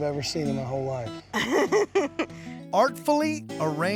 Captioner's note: laughter